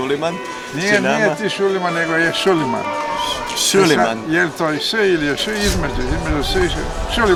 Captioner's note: sh sound